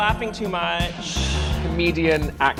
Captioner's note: audience chuckles